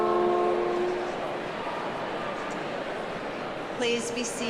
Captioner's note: voices clamoring